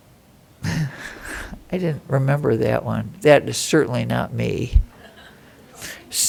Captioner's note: laughter